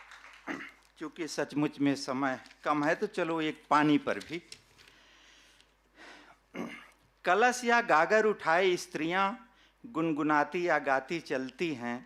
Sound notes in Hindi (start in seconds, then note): 1.5 गला साफ़ करने की आवाज़